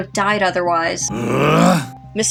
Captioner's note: growls